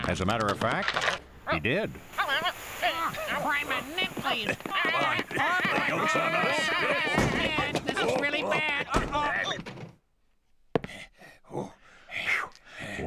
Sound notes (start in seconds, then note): 2.8 babbling, shouting, scuffling; 10.2 panting